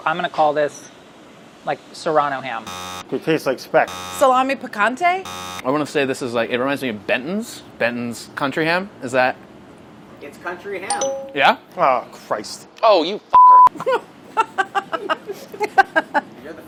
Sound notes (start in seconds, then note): 2.4 buzzing; 3.8 buzzing; 10.9 dinging; 13.4 beeping; 14.3 laughing